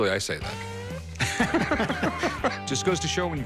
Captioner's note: laughs